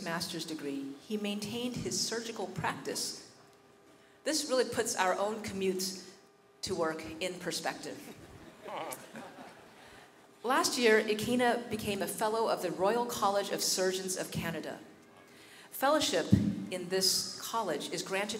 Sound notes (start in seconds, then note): 8.2 chuckles from faculty